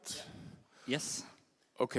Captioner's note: heavy Austrian Accent